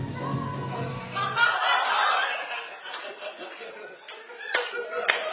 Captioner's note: audience laughs